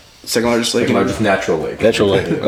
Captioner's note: laughs